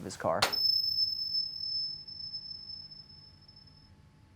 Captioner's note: metal dinging